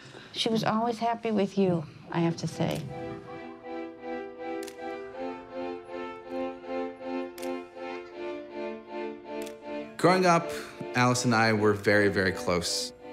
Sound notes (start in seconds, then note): 3.1 enchanting music; 4.5 camera clicking